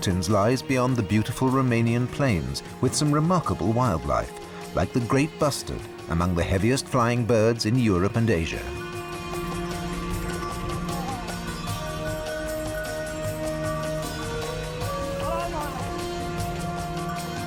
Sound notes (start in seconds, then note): 8.6 bells jangling